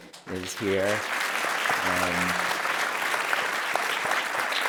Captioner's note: applause